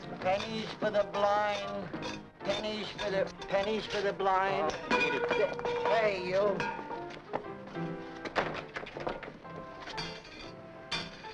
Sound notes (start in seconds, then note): 4.6 metal cup clattering; 8.0 upbeat piano music